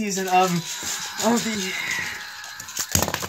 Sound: Mater Screaming

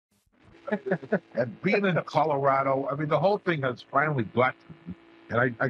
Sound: laughter

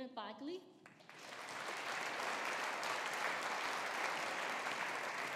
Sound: audience applauding

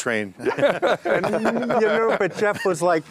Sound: group laughs

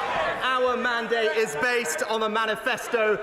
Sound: cheering and applause

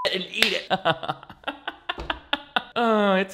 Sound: beep; laughs

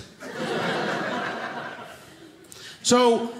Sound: audience laughing

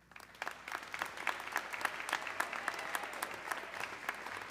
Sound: audience clapping

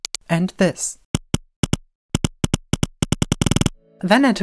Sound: rhythmic clicking; lower pitched short clicks

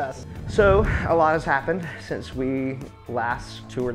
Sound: sighs

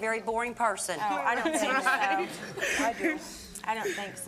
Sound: laughing

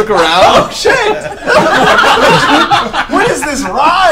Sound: all laugh

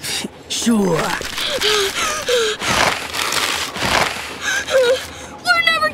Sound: hyperventilating

